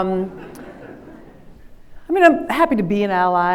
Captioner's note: everyone laughs